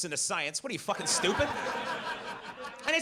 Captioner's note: audience laughs